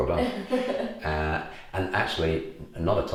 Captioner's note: laughs